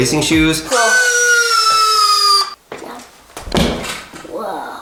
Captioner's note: electronic whirring